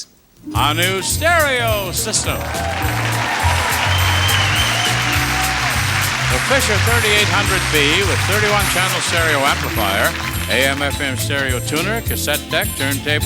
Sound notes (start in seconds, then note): 2.7 audience cheers